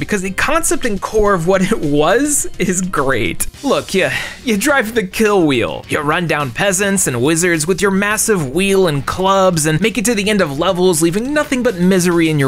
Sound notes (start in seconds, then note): 4.1 sigh